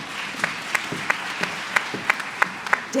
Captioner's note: applause